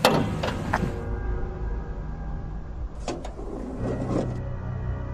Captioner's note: hood opening; car door opening